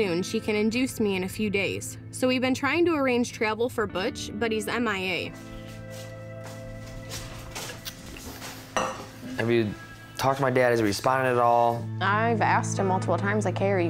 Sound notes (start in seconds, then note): 8.7 cup clinks